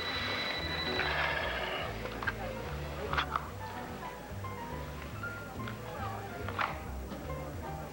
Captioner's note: telephone rings